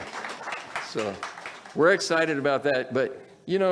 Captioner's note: audience applauds